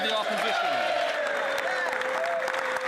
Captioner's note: some Applause